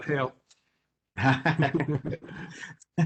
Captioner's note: laughter